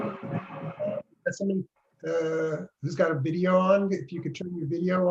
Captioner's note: loud white noise